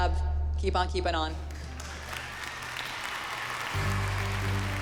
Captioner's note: applause and cheering